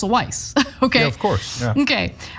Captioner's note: laugh